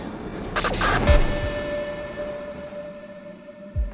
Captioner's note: lights buzzing